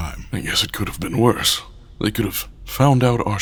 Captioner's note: sarcastic